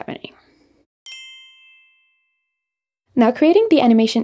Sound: bells chiming

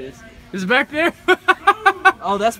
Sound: more obnoxious laughter

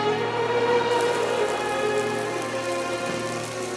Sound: sizzling

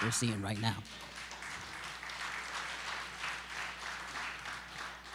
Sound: applause

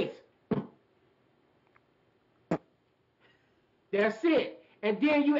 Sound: beatbox percussion

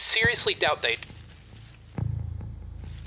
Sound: leaves rustling

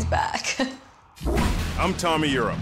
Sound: laughing

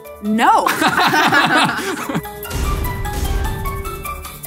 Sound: laughing

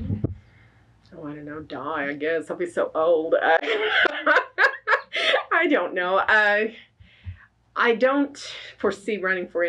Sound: laughs

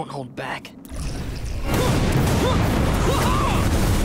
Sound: grunting

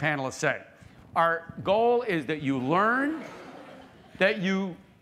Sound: laughter

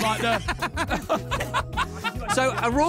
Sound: laughing

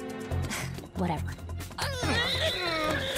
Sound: scoffs; all grunting

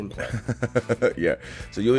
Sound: laugh

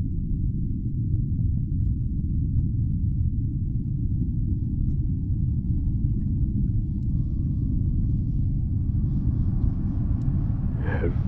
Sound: spooky ambient noise

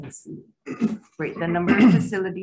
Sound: clears throat

